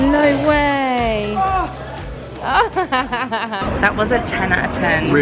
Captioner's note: laughing